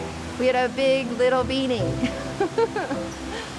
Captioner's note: laughing